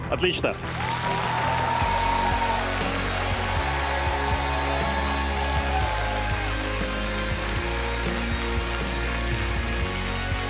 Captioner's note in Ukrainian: оплески